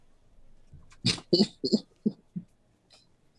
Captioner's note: laugh